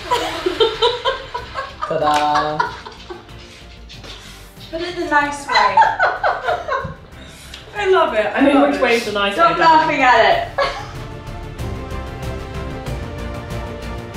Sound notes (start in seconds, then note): 0.1 laughing; 5.4 laughing; 11.2 intense music